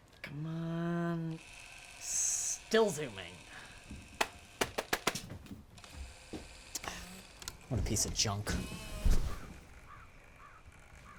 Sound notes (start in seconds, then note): 3.1 camera whirring; 4.6 hand tapping